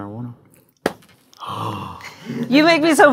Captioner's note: gasps